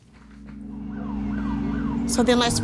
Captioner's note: police sirens